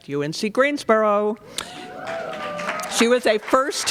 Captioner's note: cheering